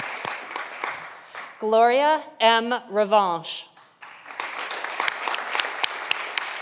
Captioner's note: audience applauding